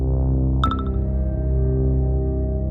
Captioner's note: phone pings